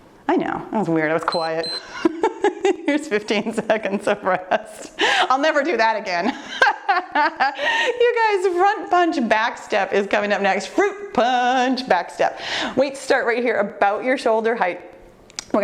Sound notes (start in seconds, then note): 1.2 timer beeps; 6.5 laughing